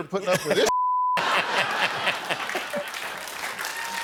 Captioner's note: jimmy laughs